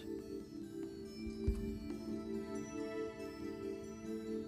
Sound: whispering

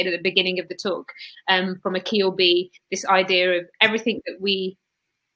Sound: erm

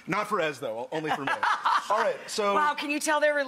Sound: laughter

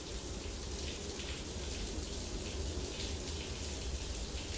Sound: water pattering

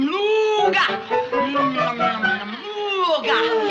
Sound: humming

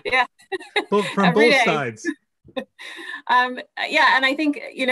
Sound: laugh

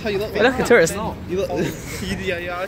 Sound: laughs

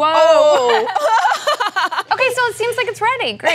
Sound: laughing

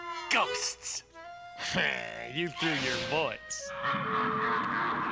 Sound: scoffs; bellowing laughter

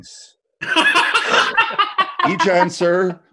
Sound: laughter

